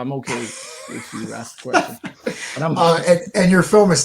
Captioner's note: laughing